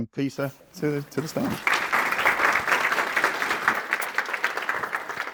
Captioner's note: audience applauding